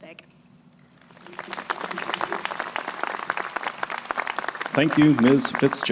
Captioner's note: crowd applauding